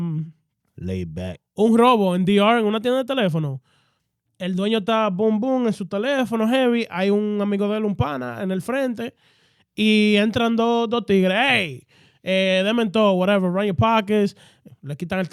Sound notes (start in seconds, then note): 3.8 speaking In Foreign Language